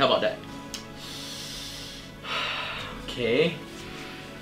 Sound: takes deep breath

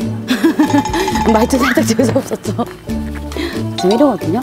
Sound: ha ha ha ha ~

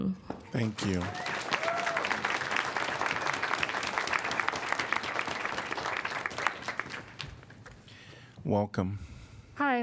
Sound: applause

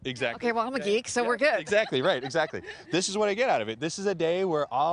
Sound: laughter

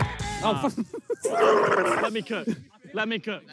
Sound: shrieks shakily

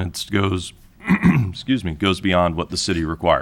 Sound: clears throat

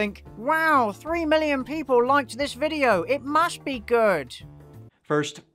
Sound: silly voice

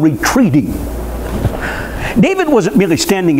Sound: chuckles

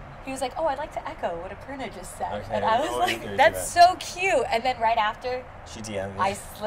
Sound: laughs

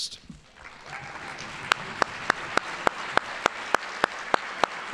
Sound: audience applauding

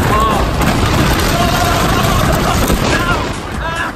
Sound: battered screams

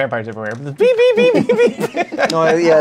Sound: laughter

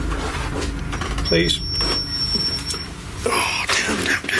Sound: high pitched beeping

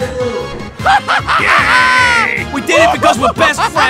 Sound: Dummkopfdore laughs

